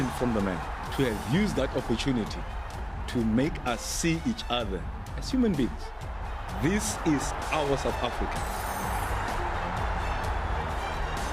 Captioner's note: cheers and music